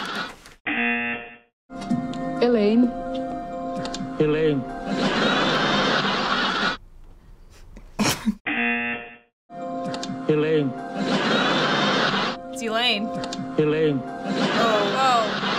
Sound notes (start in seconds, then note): 0.7 buzzer; 4.8 audience laughing; 5.6 buzzer; 5.6 snorting; 11.0 audience laughing